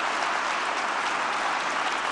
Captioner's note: applause